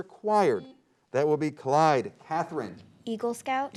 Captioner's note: beep